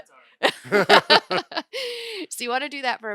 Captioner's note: laugh